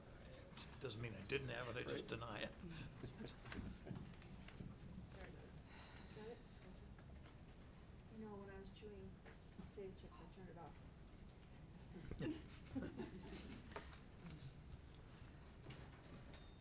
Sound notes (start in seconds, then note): 12.0 laughing